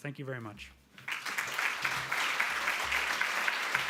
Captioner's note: applauding